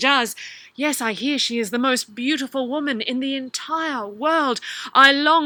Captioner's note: Djinni voice; Ali voice